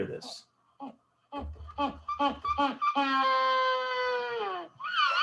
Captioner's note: penguins squawking